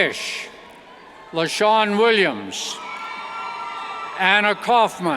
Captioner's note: cheers